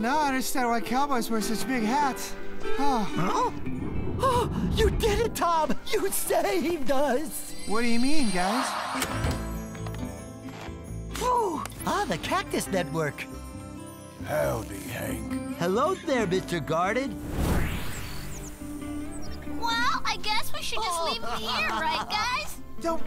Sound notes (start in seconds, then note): 18.1 birds chirp